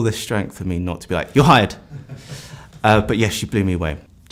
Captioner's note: laughter